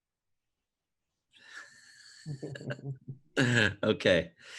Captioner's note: laughter